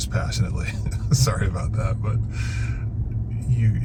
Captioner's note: laughs